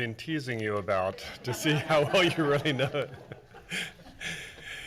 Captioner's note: laughing